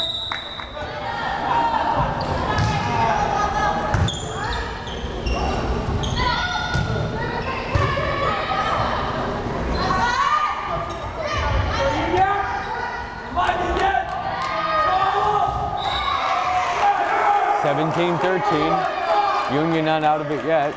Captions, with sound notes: (whistle blares) (crowd cheering) 17-13, Union not out of it yet.